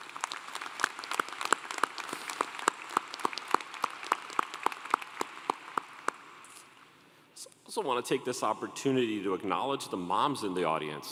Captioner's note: applause